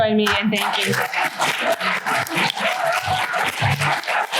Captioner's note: applause